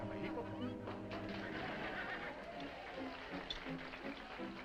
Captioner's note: dramatic music; all applauding